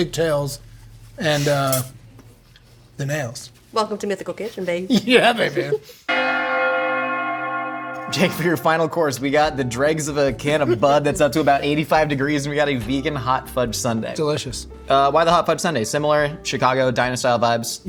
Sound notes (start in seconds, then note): 6.1 bells Ringing